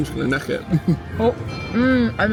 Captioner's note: laughing